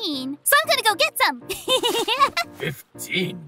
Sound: happy Priestess Laughter

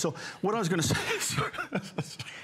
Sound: laughter

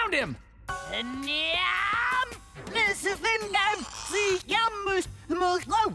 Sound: speaking gibberish

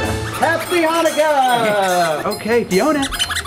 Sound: toys squeaking

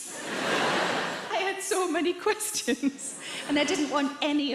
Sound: audience laughs

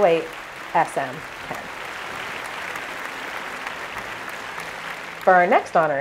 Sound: applause

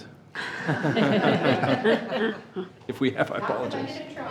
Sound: attendees laughing

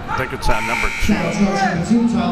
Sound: buzzer

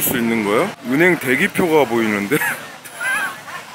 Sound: laughing

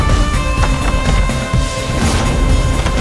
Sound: shutter creaks open

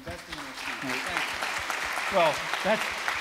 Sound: audience applauds

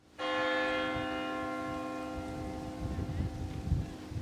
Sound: church bells ringing

